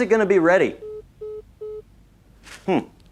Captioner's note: phone hangs up